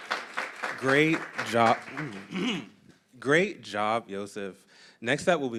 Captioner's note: applause; clears throat